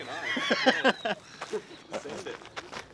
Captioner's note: laughter